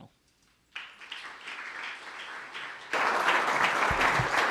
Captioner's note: audience laughing